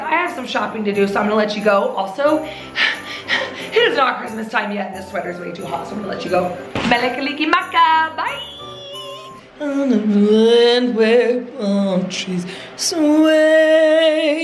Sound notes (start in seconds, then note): 2.4 breathing heavily; 8.8 upbeat festive music continues